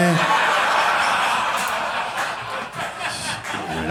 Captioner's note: audience laughing